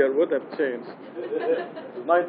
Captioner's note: gülüşmeler